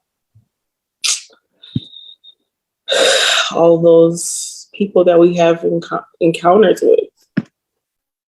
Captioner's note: sighs